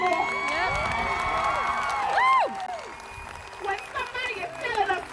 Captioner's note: crowd applauding